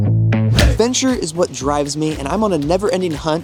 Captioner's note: lively music; screen whooshing